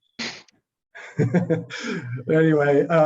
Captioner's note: both laughing